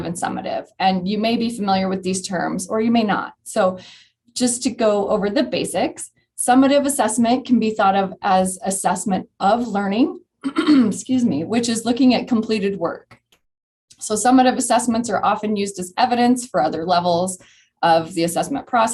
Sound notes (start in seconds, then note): 10.4 clears throat